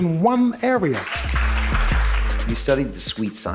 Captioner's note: audience clapping